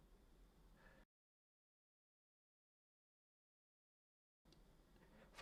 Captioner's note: silence